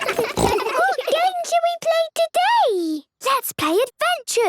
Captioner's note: giggles, snorts